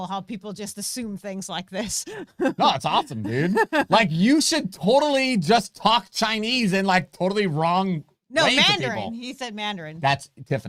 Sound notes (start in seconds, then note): 1.8 laughs